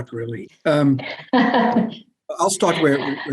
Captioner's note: laughs